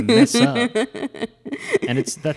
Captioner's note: laughs